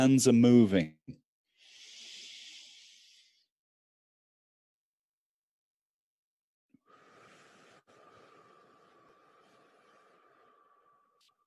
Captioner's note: breathe